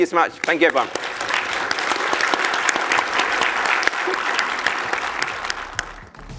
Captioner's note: applause